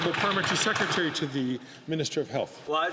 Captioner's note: some Applause